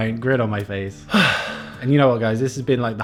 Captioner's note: sighs